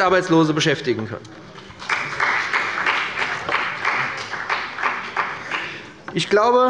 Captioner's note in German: Beifall bei dem BÜNDNIS 90/DIE GRÜNEN